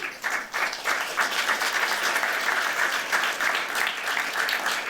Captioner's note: applause